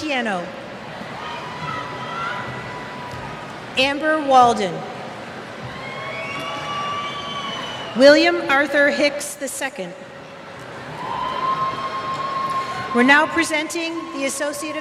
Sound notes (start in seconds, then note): 1.0 cheers; 5.6 cheers